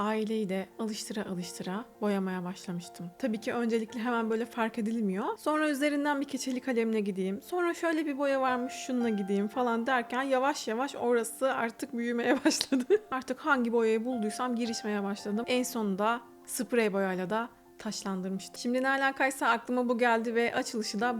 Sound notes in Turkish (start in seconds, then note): 12.3 kahkaha